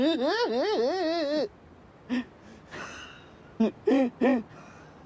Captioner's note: laughing